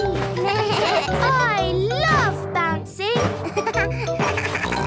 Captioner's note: giggles; bleating; giggles, snorts